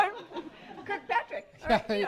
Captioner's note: laughter